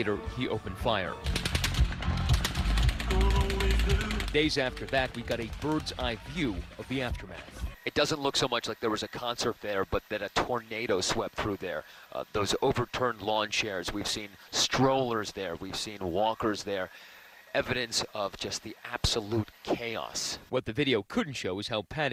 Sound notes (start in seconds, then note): 4.1 gunshots